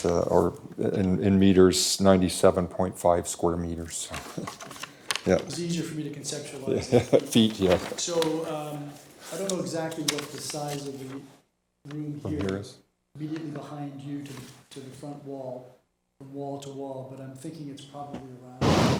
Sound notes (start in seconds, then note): 4.1 laughs